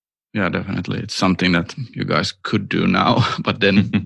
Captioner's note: laughter